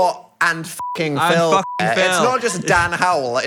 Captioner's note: beep